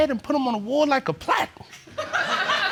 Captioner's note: audience laughing